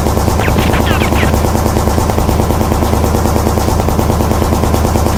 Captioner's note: gunshots banging